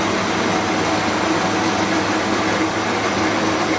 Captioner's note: none